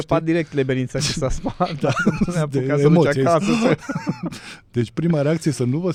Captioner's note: laughter